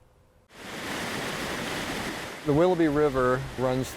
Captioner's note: water rushing